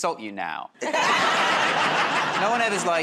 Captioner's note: laughter